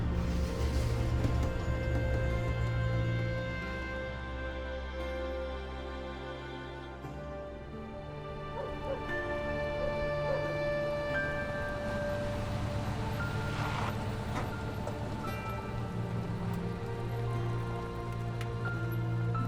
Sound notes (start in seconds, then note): 8.5 dog barking; 11.5 vehicle approaching